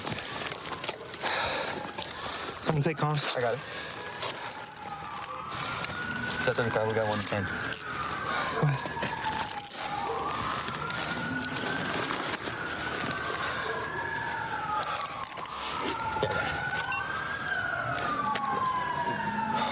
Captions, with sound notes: [sirens in distance] Someone take coms. I got it. Set 35. We got 110. [sirens grow louder] Go ahead. Yeah, I got it.